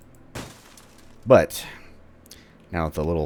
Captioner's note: smash